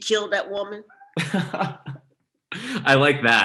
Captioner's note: laughs